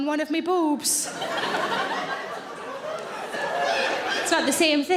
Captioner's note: audience laughing